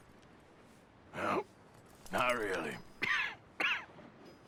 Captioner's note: grunts and coughs